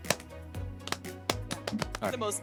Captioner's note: clapping